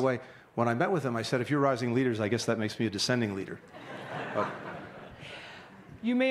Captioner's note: laughter